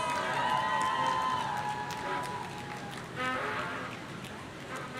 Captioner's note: audience cheering